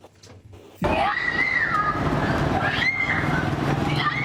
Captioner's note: children screaming